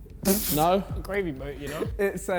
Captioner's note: Tobi scoffs